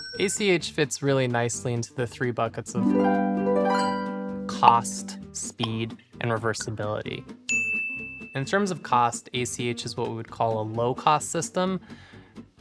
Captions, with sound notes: ACH fits really nicely into the three buckets of— [harp music] cost, speed, and reversibility. [ding] In terms of cost, ACH is what we would call a low cost system.